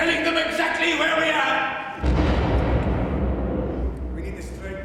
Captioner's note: explosion in the distance